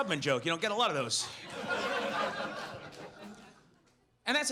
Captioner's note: audience laughs